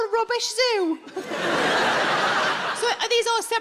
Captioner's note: audience laughs